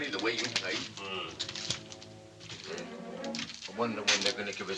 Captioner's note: Ovenden Grumbles